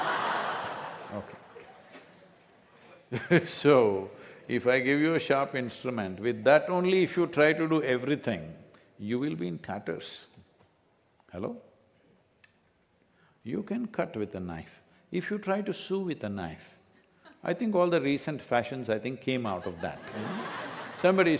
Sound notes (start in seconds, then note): 0.0 laughter; 3.8 laughs; 19.5 laughter